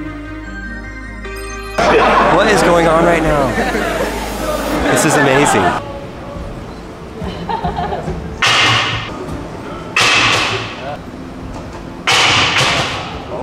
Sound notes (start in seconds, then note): 0.0 light electronic music; 7.2 woman laughing; 8.6 metal ball thudding